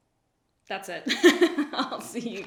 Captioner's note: laughs